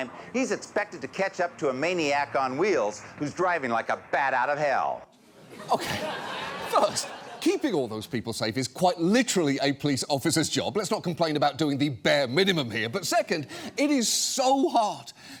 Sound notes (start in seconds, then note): 5.2 studio audience laughs